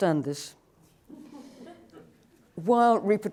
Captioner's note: laughter